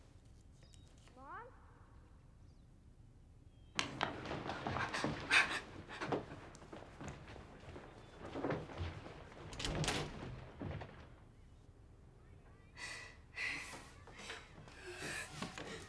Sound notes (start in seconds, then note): 4.6 gasps; 12.8 sobs